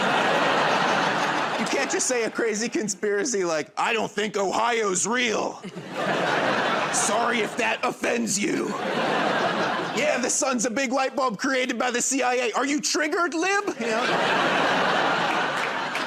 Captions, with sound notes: [ Laughter ] You can't just say a crazy conspiracy, like, "I don't think Ohio's real." [ Laughter ] "Sorry if that offends you." [ Laughter ] "Yeah, the sun's a big light bulb created by the CIA. Are you triggered, lib?" You know? [ Laughter ]